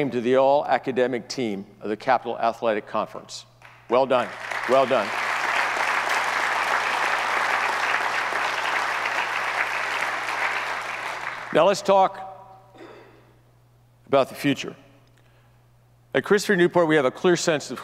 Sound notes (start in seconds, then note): 4.1 audience applauds